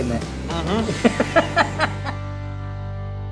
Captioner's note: laughing